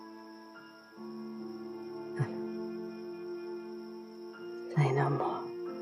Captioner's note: chuckles